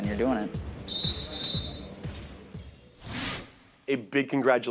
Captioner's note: referee whistles twice